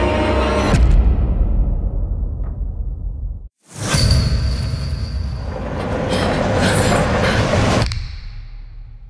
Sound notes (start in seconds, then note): 3.9 chains clinking; 5.6 metal door sliding